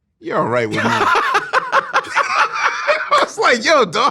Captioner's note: Bill laughing